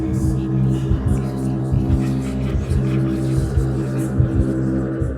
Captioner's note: disembodied whispering